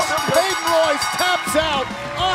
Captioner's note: bell ringing